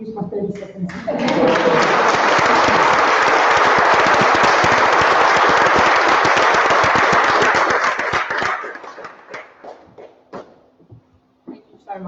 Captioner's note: applause